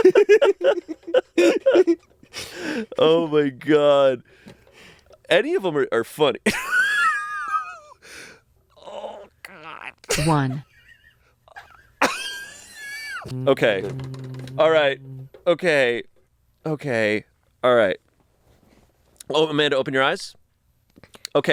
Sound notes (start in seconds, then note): 0.0 giggling; 7.1 laughs; 12.4 wheezing